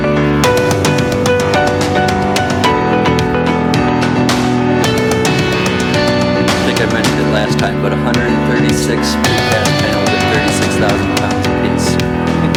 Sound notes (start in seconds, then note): 9.0 speaking distantly